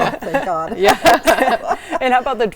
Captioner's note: everyone laughing